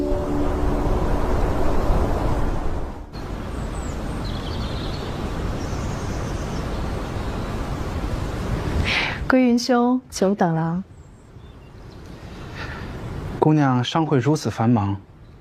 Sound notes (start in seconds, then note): 2.8 wind